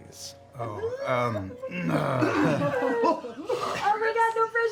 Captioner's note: nervous laughter